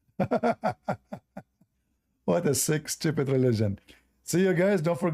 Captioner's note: Ketawa